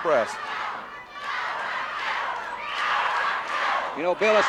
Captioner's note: audience chanting